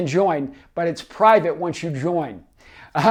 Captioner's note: laughs